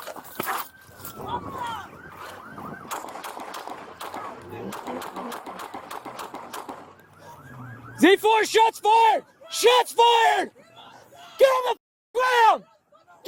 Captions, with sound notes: [SHOTS FIRED] Z4. Shots fired. Shots fired. Get on the f--- ground.